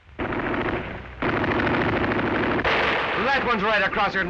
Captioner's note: gunfire